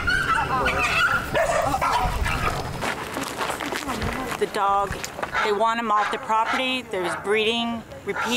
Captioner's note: dogs barking